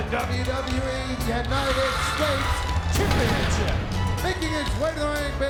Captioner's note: graphics whooshing